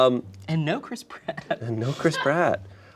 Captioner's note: laughs